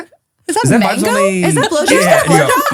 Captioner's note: laughing